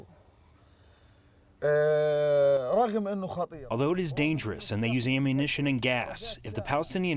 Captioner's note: through translator